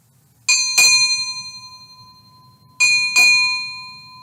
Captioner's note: bell rung